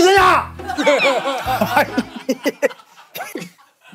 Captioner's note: yelling